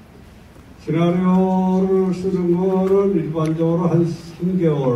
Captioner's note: in foreign language